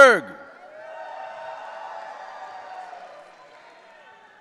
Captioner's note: audience cheering